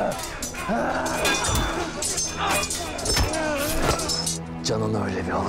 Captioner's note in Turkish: Çarpışma sesleri